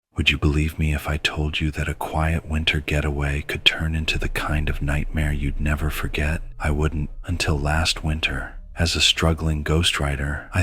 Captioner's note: snowman, near by, scary noise of sudden appearance